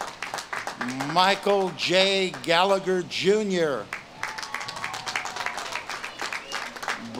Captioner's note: audience claps and cheers